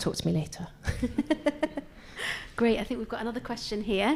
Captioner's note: laughs